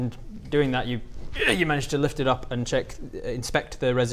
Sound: ugh

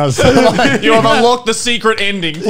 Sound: men laughing

